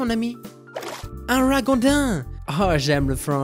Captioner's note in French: accent anglais